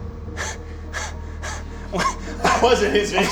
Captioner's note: laughs incredulously